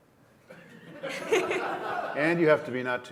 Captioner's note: laughter